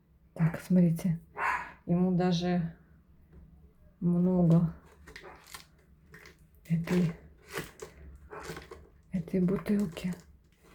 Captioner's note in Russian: фыркает